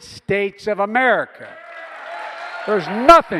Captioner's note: applause